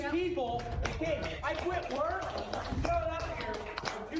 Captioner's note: crowd applauding